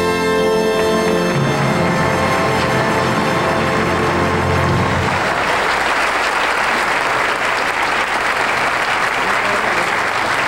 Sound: audience applauding

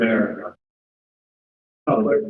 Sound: silence

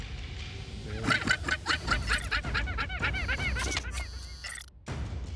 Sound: llama sounds

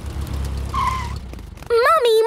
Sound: tires screeching

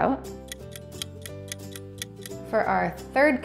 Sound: ticking sound

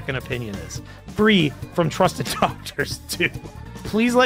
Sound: laughs

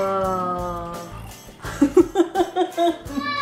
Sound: snoring; laughing

